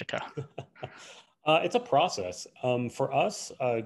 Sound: laughs

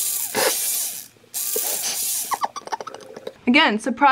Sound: snorts and giggles

